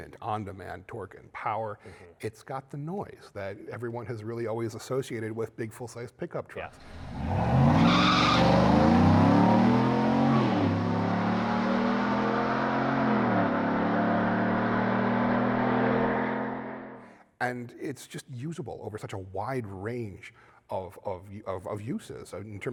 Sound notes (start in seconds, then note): 6.8 engine revving; 6.8 tires screeching